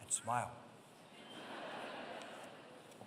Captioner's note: laughter